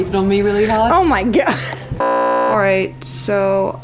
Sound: beep

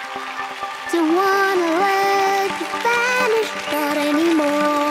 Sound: applause

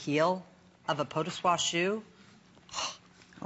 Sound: foreign language

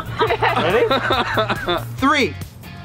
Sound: all laugh

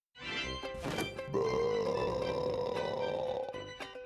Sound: belching

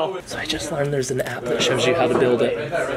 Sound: quietly

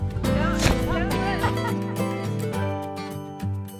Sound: quiet thumping

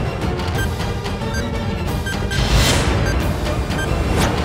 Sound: beeping

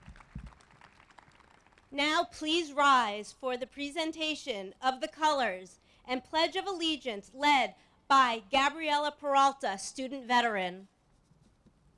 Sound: applause

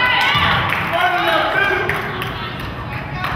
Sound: crowd claps

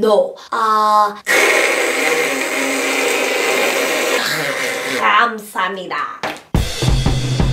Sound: throat clearning

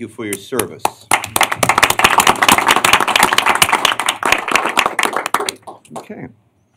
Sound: applause

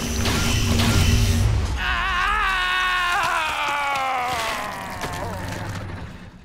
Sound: screaming, groaning

